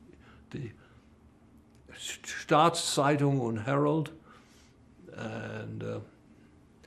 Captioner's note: german